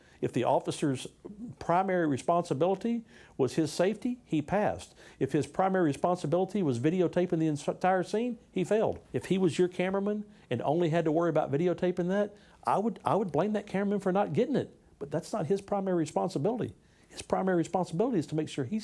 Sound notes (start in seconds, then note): none